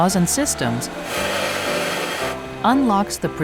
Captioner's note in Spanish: Sonidos de siseo de vapor